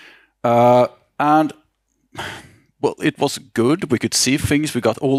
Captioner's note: exhales